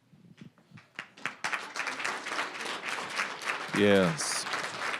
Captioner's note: applause